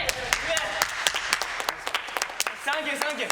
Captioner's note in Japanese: 拍手